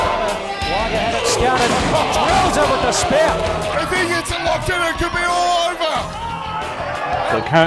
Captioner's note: crowd Cheering; announcer screaming "It could be all over!"